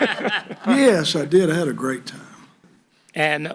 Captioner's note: laughter